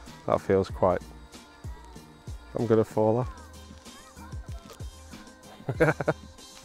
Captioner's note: laughs